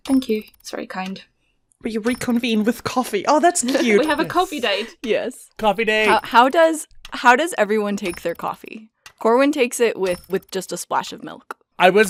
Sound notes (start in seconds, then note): 3.7 laughs